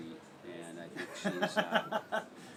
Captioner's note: laugh